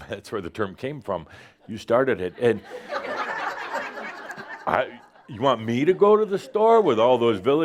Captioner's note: laughter